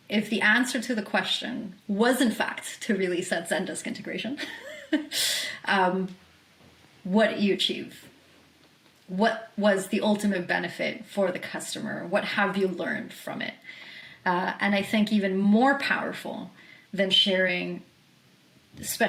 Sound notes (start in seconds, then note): 4.4 laughs